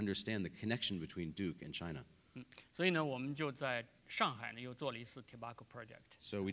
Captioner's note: speaking in Chinese